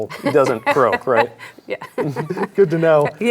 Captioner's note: laughs